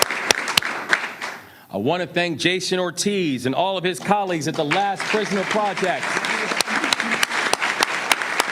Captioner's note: applause